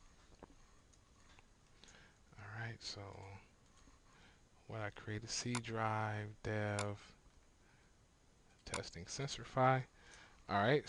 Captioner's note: silence